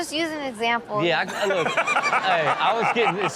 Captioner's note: Steelo laughs